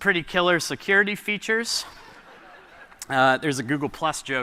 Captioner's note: laughter